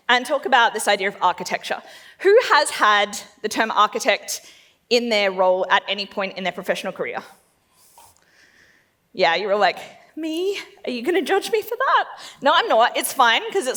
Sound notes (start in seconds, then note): none